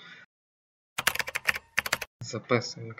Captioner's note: Natyskannja klaviš